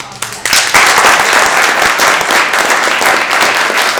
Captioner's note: audience applauds